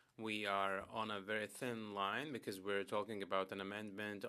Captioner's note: speaking French